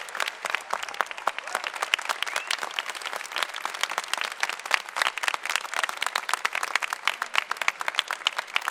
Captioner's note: applause